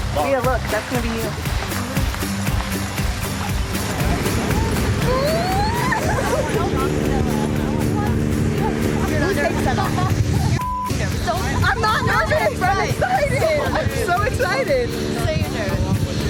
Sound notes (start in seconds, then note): 1.9 upbeat music; 4.1 laughs; 7.2 plane engine roars; 10.6 beep